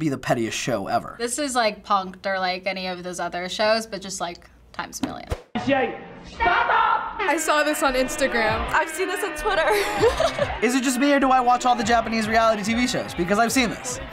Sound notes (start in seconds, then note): 5.6 host speaking Japanese; 9.5 laughs